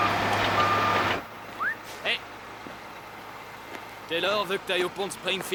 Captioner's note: wistles